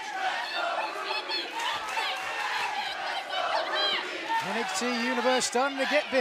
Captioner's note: fans chanting